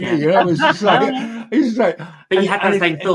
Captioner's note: laughing